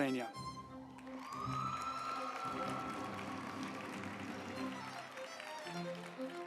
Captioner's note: uplifting music; group applauding